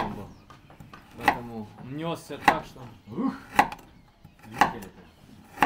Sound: people speaking foreign language

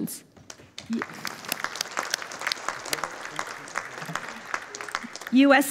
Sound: audience applauding

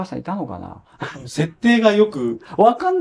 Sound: laughs

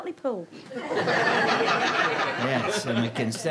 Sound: audience laughter

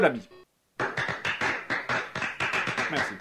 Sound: weak applause

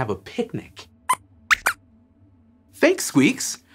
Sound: squeaks squeaks

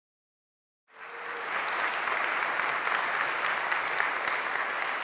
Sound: audience applauding

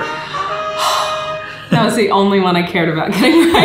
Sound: triumphant horn; sigh

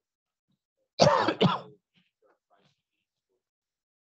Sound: coughing

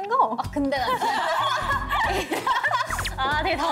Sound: laughing

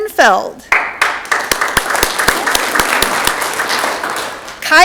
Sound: audience clapping

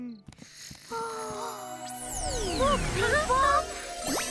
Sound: both gasping

